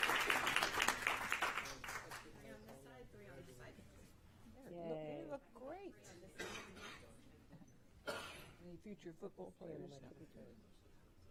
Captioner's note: applause